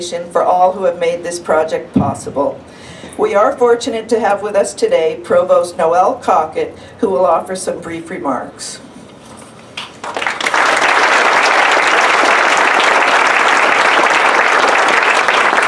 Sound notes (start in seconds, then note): 9.7 applause